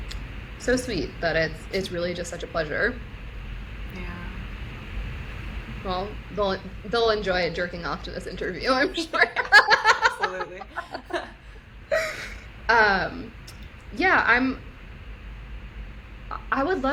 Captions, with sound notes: and like so, so sweet that it's really just such a pleasure. - Yeah. -Well they'll they'll enjoy it jerking off to this interview, I'm sure. (Laughs) - Absolutely. (laughs) Yeah.